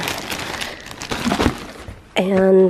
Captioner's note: plastic crinkling